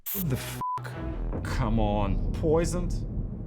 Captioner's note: beep